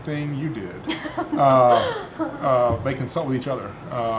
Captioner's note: laughing